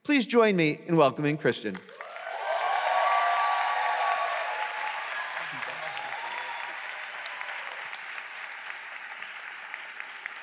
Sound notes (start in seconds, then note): 2.0 audience cheering